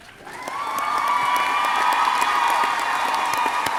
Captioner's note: crowd cheering